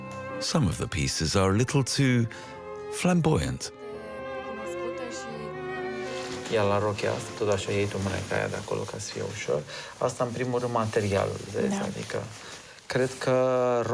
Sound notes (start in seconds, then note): 6.3 speaking foreign language